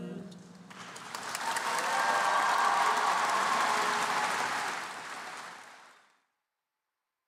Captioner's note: applause